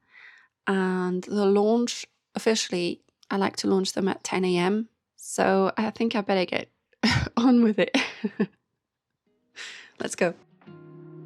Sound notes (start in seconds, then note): 7.9 laughter